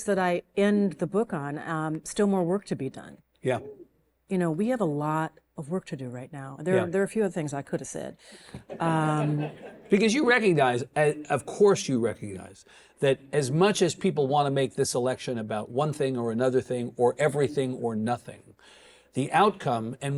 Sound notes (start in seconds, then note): 8.6 audience chuckling